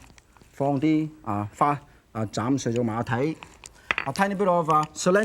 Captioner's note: foreign language